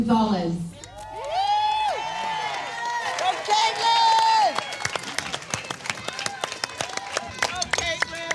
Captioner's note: audience cheers and applauds